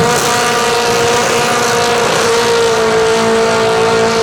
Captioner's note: engine noise